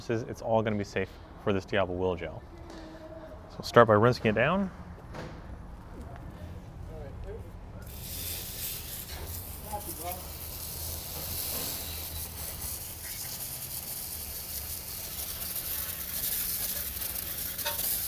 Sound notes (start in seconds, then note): 8.2 water spraying; 10.1 people talking in background